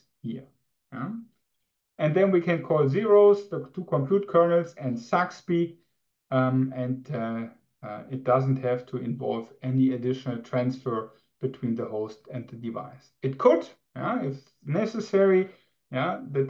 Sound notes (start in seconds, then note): none